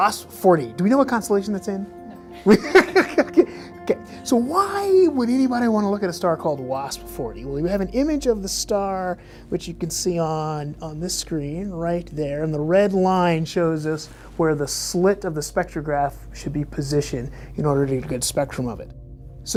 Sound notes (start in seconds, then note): 2.0 laughs